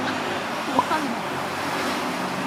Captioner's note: surprised